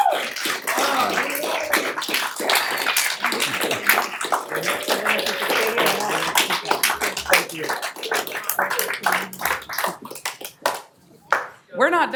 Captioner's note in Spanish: aplausos